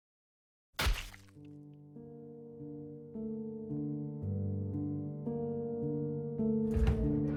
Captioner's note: drip, drip